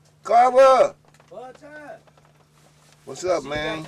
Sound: shouting

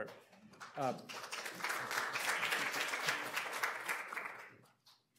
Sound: audience applauds

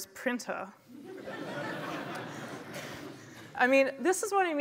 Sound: laughter

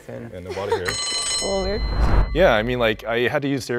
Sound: buzzer

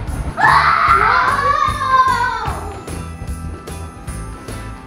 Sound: footsteps thudding; kids yelling

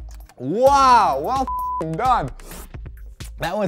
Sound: beep

